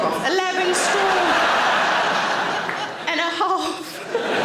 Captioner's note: audience laughing